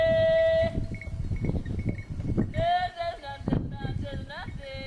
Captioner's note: chanting in greek; bells clanging